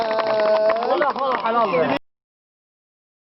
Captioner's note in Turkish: Alkışlar